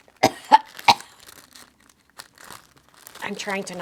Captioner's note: coughing